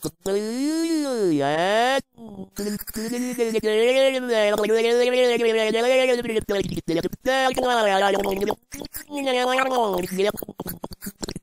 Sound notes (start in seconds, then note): 2.7 alien fish noises; 10.6 fricken gross water spit noises